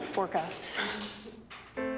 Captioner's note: laughs